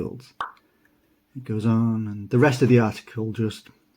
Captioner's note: pop sound